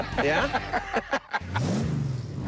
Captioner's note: laughs